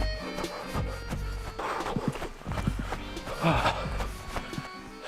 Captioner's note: panting